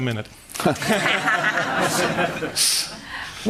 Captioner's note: laughter